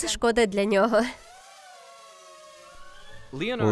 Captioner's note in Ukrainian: дзижчання робота